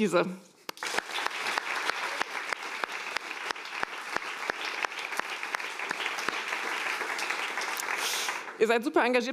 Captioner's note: applause